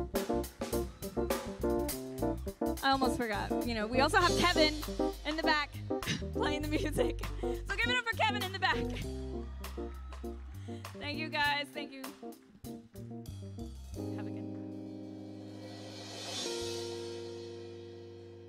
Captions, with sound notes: I almost forgot. You know, we also have Kevin in the back playing the music. So give it up for Kevin in the back. [audience cheering] Thank you, guys, thank you. Have a good night.